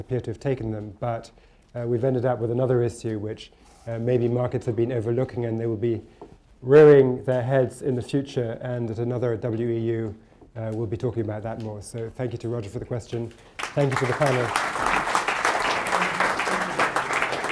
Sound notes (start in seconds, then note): 13.3 applause